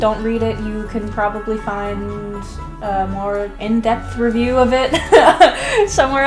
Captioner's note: laughs